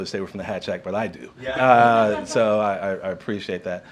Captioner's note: laughter